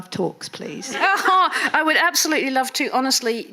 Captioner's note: laughing